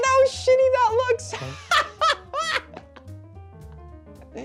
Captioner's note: gleeful laughing